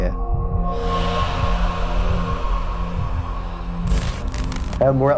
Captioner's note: eerie sounds